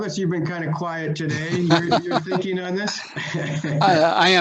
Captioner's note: laughing